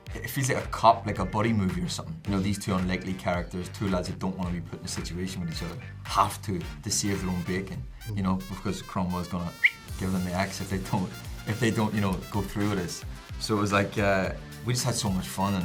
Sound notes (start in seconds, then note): 9.5 whistles